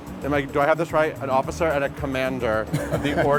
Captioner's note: Adrian laughs